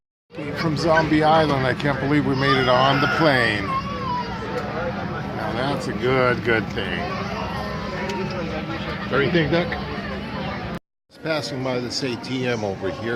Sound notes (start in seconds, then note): 8.5 background chatter